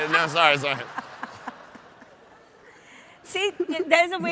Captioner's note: audience laughs